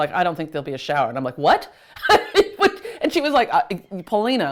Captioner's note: laughs